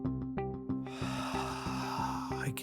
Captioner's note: Buddy exhales